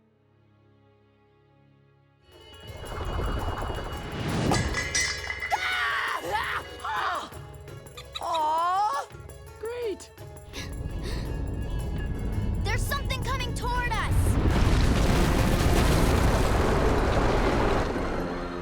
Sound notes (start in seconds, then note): 4.4 metal tinging; 5.4 screaming